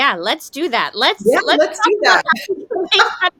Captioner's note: laughs